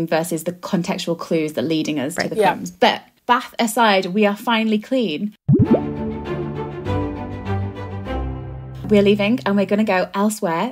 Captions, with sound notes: versus the contextual clues that leading us to the films. But Bath aside, we are finally clean. (bubbles popping) (upbeat music) We're leaving and we're gonna go elsewhere.